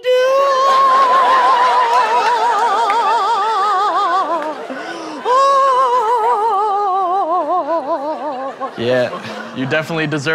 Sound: moaning

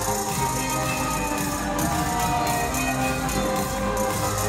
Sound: crowd cheering

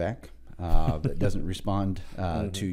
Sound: laughs

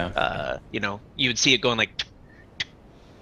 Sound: click sound

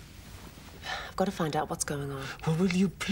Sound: sighs

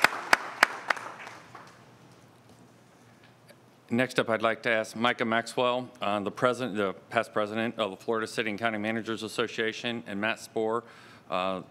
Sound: applause

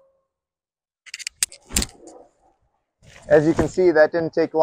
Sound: thumping

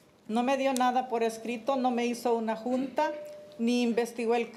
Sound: speaking Spanish

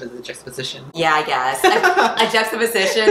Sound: laughs

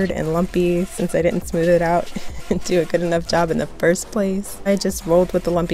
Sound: laughs

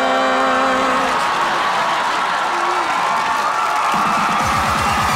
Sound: cheering; cheering, music playing

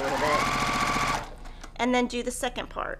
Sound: sewing machine resounding

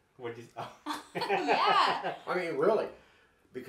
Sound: laughs

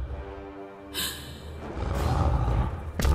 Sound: gasps

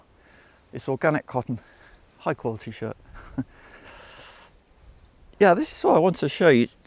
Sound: chuckles

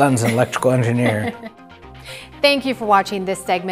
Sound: laughter

